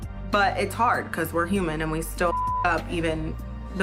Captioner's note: beep